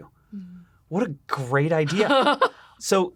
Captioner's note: laughs